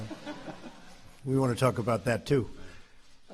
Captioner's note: laughter